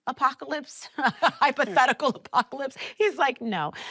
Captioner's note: laughing